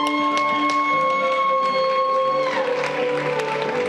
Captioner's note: person cheering